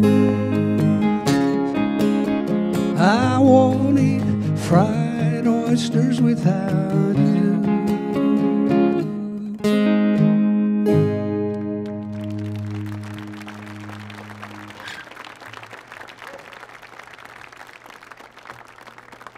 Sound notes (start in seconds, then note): 11.6 audience applauding